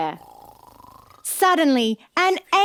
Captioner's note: Peter snores